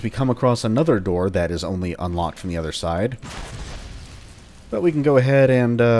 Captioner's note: double the FWOOSH